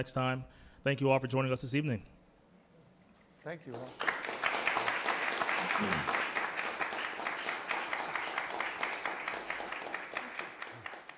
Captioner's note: applause